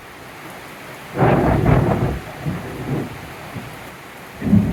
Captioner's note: thunder